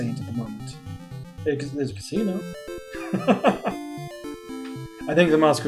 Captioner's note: chuckles